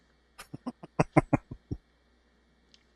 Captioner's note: chuckling